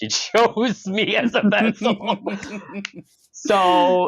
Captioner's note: laughter